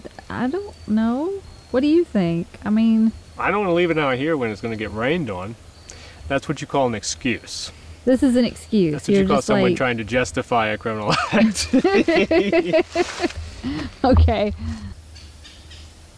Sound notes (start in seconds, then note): 11.0 both laughing